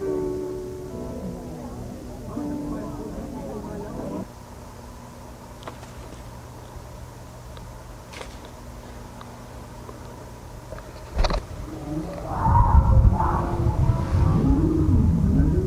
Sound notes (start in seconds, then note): 0.0 soft music; 7.9 footsteps thudding